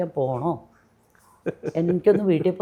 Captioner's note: laughs